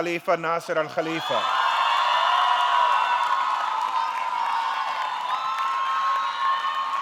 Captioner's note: audience cheering; audience clapping